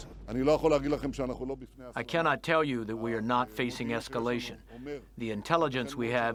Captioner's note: through translator